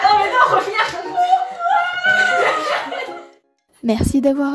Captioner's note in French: Rire